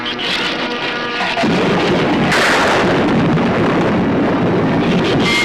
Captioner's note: thunder claps; shrews screech